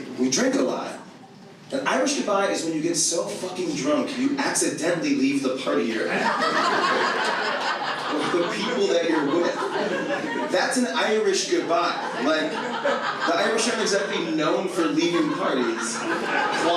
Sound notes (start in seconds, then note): 7.1 audience laughs